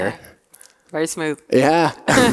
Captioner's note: laughing